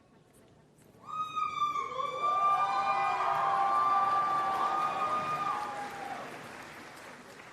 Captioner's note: applause and Cheering